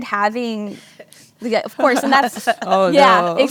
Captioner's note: laugh to themselves